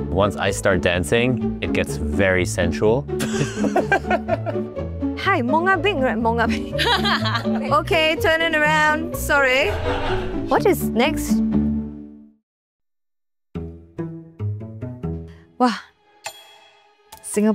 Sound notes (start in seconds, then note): 3.2 laughter; 7.3 laughs